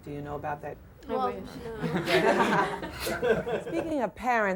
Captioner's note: laughter